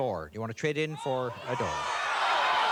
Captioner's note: audience shouting